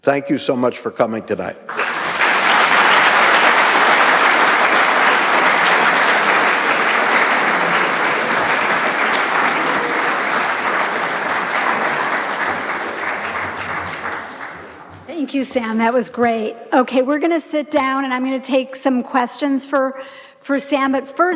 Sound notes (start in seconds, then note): 2.0 audience applauding